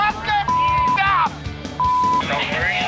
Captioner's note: shouting